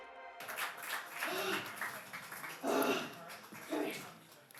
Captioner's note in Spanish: jadeando